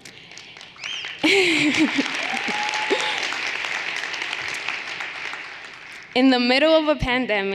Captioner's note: everyone applauding and cheering